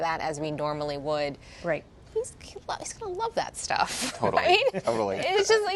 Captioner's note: laughter